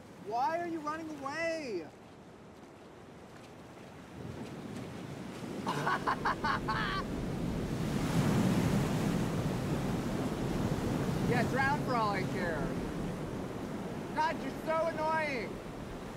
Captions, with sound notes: - Why are you running away? (laughing) (waves whooshing) Yeah, drown for all I care. God, you're so annoying!